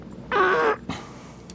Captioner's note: blows Raspberry